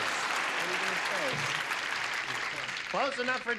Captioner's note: clapping